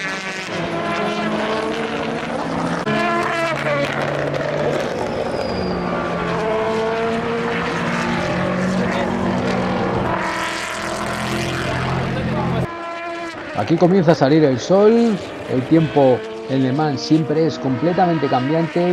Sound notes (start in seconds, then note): 11.3 motors